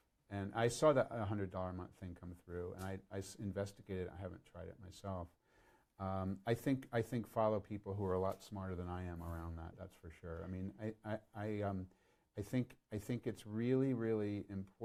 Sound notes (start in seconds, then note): none